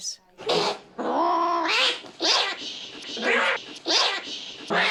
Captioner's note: hissing and spitting